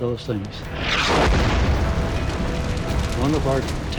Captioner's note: shell exploding